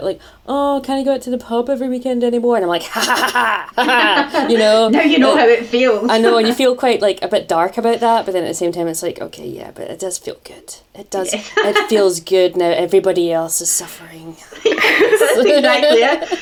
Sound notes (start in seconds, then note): 2.8 laughs; 14.6 laughter